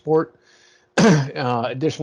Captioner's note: coughs